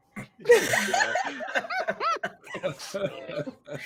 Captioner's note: laughing